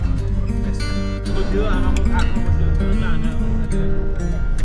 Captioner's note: indistinct chatter